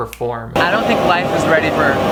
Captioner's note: snaps fingers